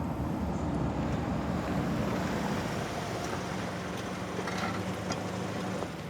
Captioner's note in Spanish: sonido de motores